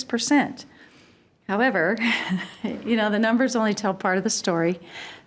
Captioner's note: chuckling